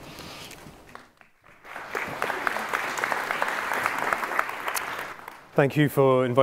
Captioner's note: applause